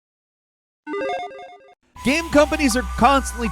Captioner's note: game jingle